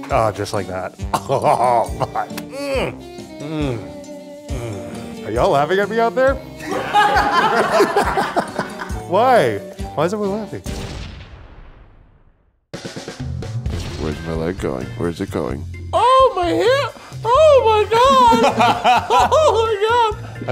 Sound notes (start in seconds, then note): 2.7 groaning; 6.6 everyone laughing